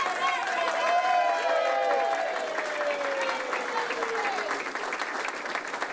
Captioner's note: group cheering